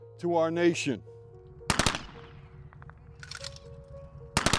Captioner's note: 21 gun salute